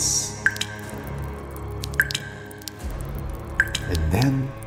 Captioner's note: blood dropping sound